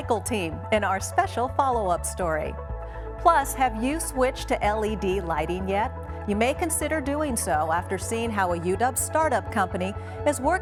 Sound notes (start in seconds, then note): none